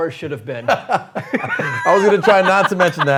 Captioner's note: both laughing